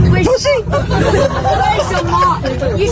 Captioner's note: crowd laughs